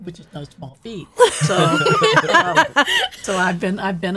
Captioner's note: laughing